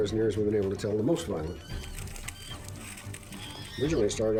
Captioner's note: monkeys chattering